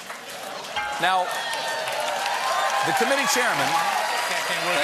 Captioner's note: piano riff; laughter; applause